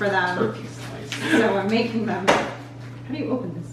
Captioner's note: laughter